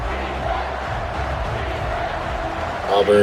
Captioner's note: crowd Noises